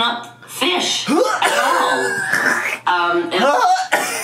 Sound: gagging

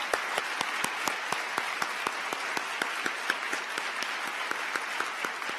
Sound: applause

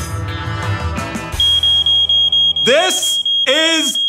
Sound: dramatic music; smoke detector blaring; talking loudly

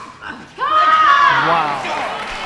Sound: grunting

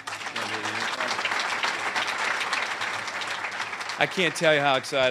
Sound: applause

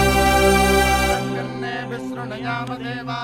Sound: chanting

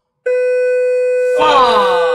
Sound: loud beeping

